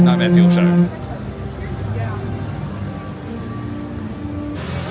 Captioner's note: guests chattering